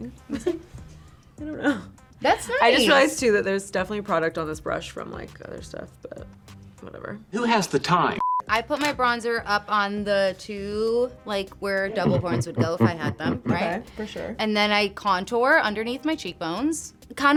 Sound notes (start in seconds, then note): 8.2 beep